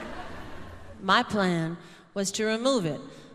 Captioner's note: laughter